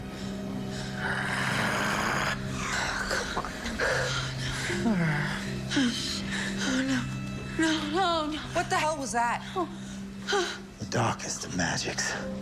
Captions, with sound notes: (growling) - Come on. - Oh no. No, no, no. - What the hell was that? - The darkest of magics.